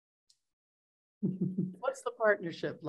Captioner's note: chuckles